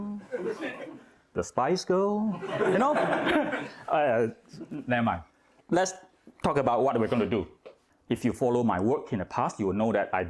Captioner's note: laughing